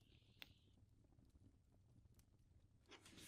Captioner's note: wax dripping